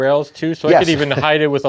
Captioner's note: chuckles